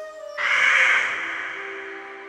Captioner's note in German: krächtzen